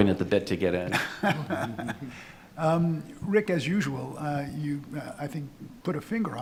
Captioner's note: laughing